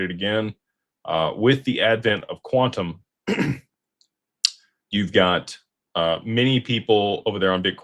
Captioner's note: clears throat and cough